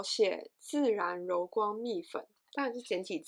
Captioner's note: in Mandarin